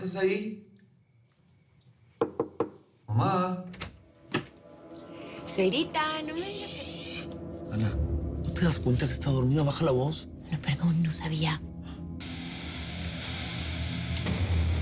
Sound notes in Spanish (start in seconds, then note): 3.6 Sonido al abrir la puerta